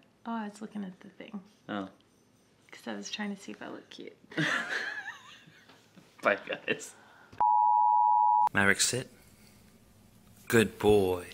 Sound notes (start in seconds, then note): 4.3 laughing